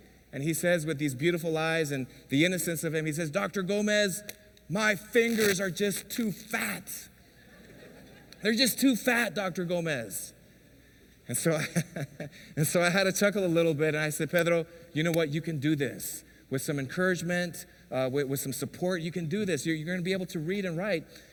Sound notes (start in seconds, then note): 11.6 laughs